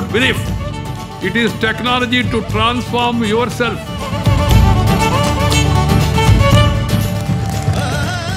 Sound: applause

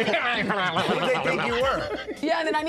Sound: laughter

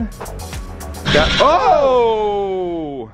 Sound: fan whirring

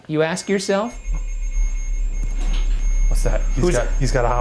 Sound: machine beeping

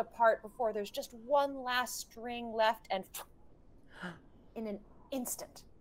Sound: swooshes

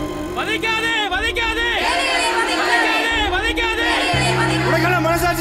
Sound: crowd Chanting

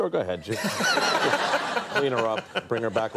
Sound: audience laughing

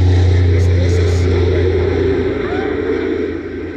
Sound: dad talking

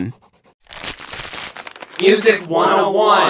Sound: paper crumpling

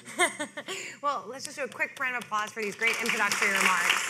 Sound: laughing

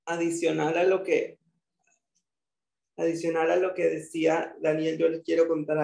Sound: speaking in foreign language

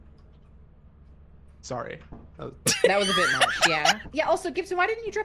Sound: laughs

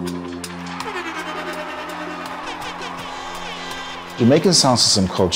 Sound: air horns blaring loudly

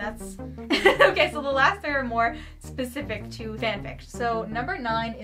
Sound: laughs

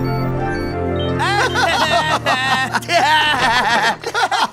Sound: laughter

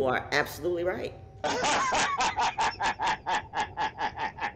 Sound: laughs

